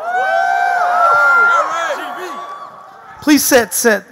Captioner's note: audience cheering